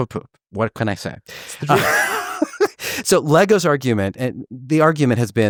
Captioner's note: laughs